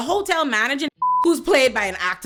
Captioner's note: beep